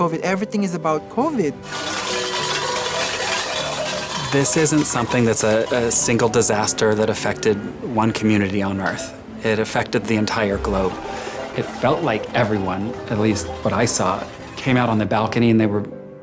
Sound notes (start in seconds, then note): 1.6 metal clanging